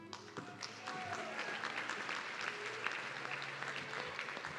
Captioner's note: audience clapping